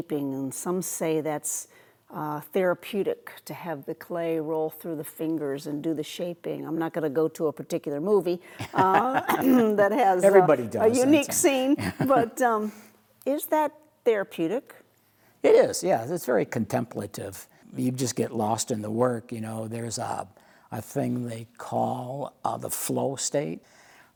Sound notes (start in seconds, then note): 10.8 laughing